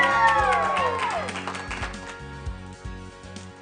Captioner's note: cheering